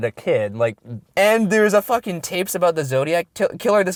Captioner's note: voiceover